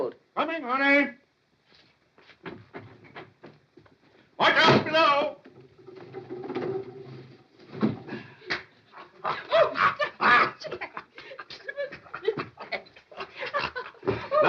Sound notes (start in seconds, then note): 8.9 Jack laughs; 11.4 both giggling